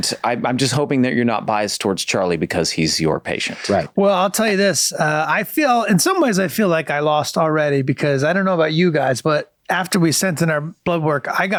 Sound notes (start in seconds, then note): none